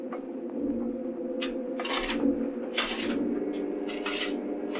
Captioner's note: shovels scraping